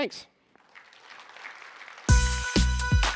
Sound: applause

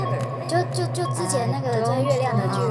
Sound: speaks in Mandarin

